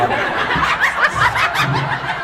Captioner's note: laughs; laughs, inaudible